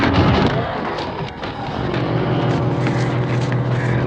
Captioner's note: ghouls growling